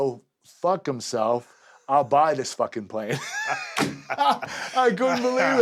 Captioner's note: laugh